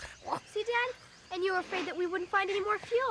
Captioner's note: Stink sniffles; Tasha coos